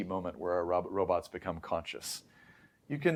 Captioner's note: inhales